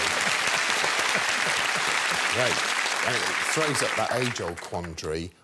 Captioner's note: applause